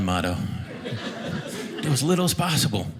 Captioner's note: audience laughing